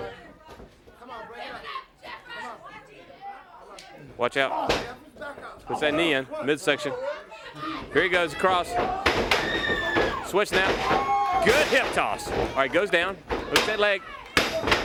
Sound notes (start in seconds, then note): 0.2 crowd chatter; 5.2 crowd chatter